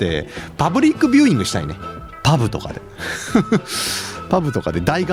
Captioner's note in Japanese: 笑い